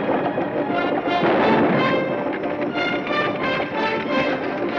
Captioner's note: gun fires